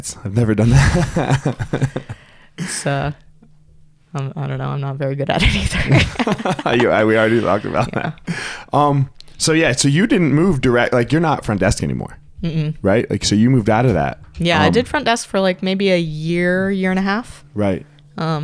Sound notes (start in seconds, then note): 0.4 laughs; 5.4 both laugh